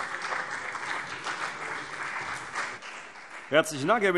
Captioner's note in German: Beifall CDU und BÜNDNIS 90/DIE GRÜNEN